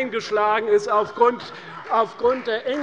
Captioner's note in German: Heiterkeit und Beifall bei Abgeordneten der CDU